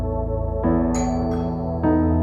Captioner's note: door bell